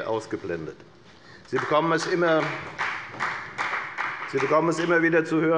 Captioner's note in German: Beifall bei der FDP